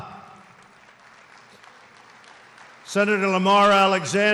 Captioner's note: applause